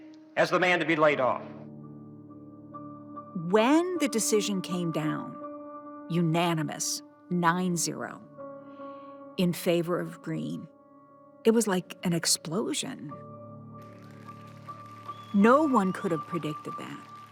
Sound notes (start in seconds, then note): 13.8 people applauding; 14.8 people cheering